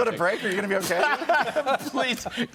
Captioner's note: laughter